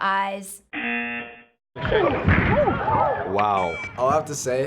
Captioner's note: buzzer